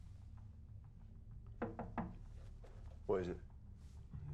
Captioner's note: nicu taps on window